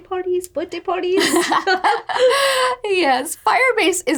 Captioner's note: laughing